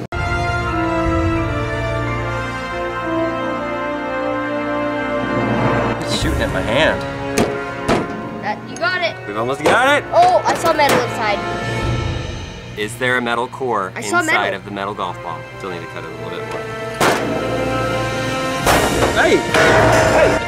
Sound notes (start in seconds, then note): 0.2 dramatic music; 7.8 hits ball on board; 17.0 hits ball on board